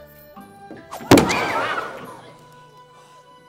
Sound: crowd gasåing

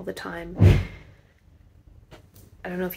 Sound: thud

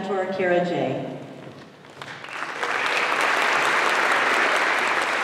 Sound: applause

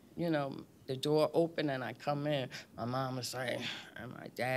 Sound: scoffs

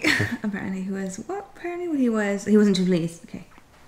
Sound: chuckles

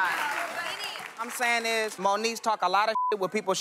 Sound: beep

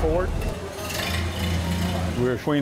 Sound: engine chugging

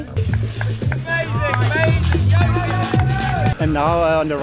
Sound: yells

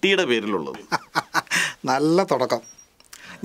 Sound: laughs

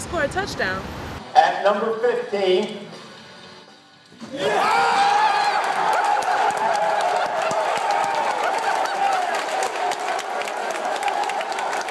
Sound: crowd cheers

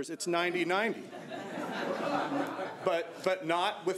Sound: audience laughing

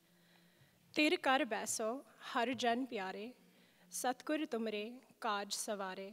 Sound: speaking in a foreign language

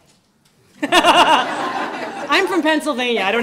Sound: laughter

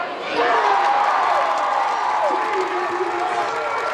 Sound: crowd cheers

